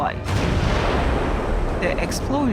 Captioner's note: explosion